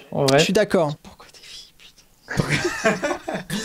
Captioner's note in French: chuchote